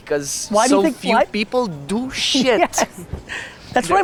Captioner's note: laughs